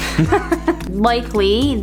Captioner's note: laughing